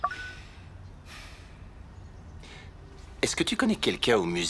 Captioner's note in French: gazouillis d'oiseaux